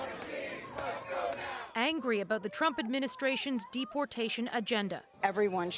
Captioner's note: chanting